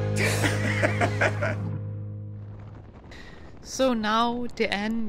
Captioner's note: upbeat music; chuckling